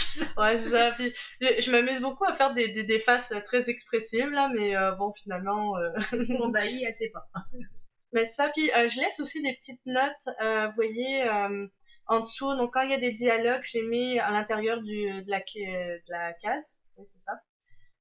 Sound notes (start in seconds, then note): 0.0 laughs; 6.1 laughs